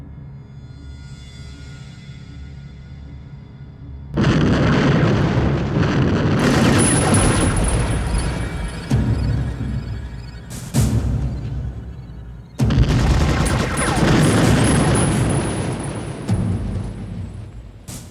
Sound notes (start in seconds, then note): 4.4 explosion rumbling; 6.6 machine gun firing; 12.6 machine gun firing; 12.9 bomb exploding